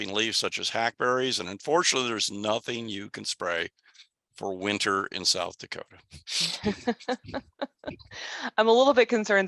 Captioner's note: laugh